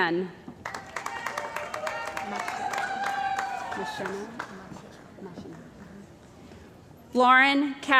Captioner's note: cheering & Applause